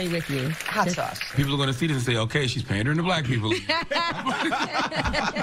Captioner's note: applause